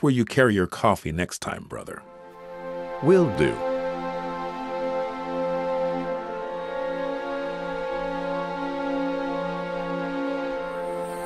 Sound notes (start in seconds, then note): 7.3 dramatic music; 7.3 whirring of drones